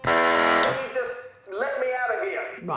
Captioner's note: machine blaring